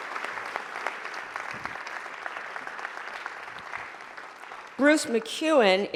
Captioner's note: applause